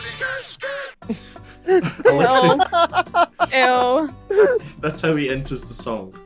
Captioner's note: laughter